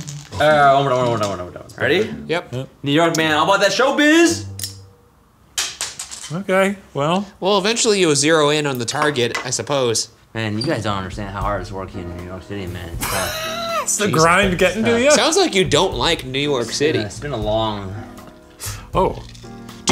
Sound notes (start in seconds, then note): 13.0 laughing